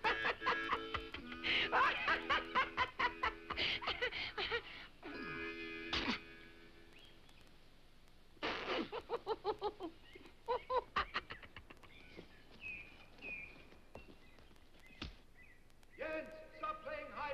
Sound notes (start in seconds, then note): 5.0 Dunderklumpen groans; 8.6 dummy laughs; 11.7 birds chirping